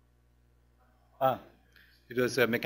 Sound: pause

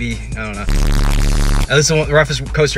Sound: static

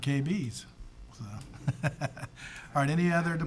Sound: people chuckling

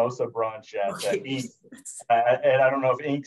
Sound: laughs

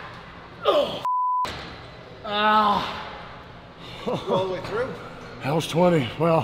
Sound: laugh

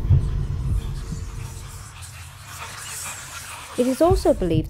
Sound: whispers

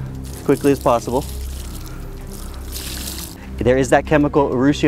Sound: water splattering

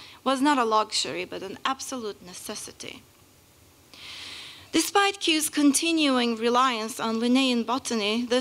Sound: none

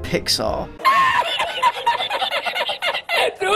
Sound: laughs in Spanish

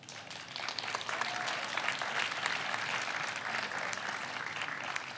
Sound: audience applauds

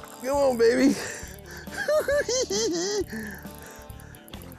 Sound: giggles

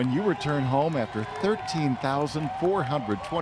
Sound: cheers

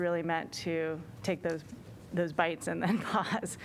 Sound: laughter

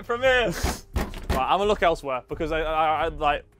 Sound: door banging

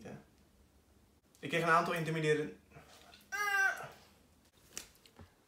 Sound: seacow noise

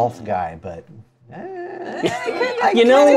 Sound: appreciative sound

